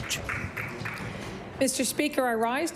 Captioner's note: applause